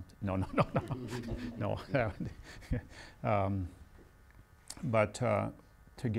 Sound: laughs

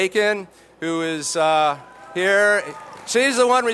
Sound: applause

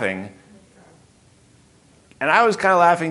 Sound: audience murmuring

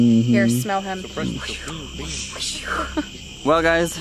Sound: swooshing

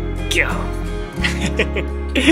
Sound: lion roar in Japanese

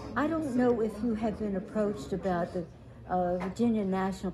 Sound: shouting

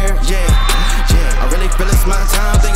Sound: cheering

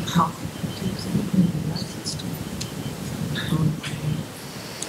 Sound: audience member murmuring

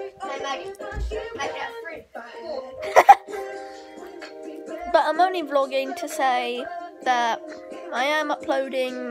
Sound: laff

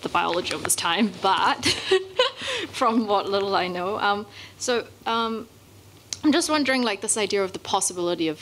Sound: laugh

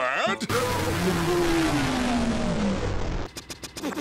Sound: extremely loud red noise

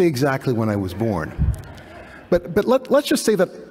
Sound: laughter

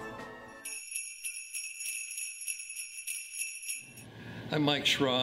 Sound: sleigh bells

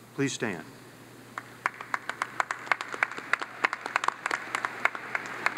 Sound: audience claps

